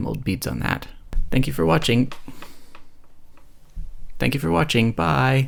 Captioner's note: slight bumping sound